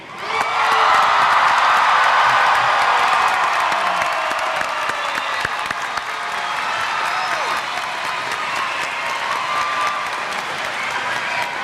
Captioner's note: applause